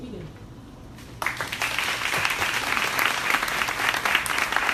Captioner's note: crowd applauding